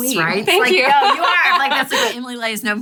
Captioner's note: laughs